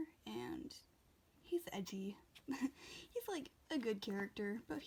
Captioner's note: laughs